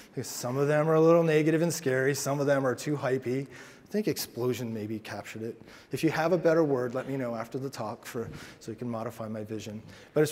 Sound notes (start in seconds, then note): none